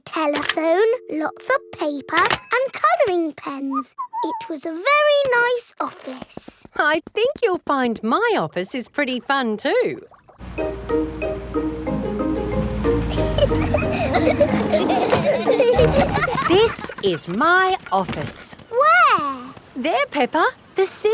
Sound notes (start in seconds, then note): 4.1 whistles; 12.9 children giggling